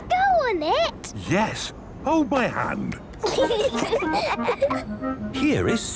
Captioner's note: children giggling